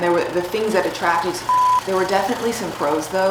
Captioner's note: beep